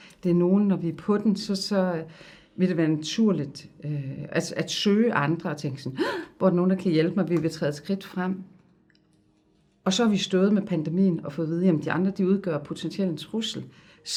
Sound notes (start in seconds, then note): 6.0 gasp